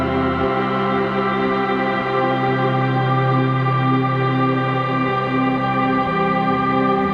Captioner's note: none